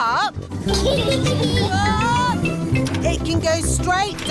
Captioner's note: snorts; kids giggling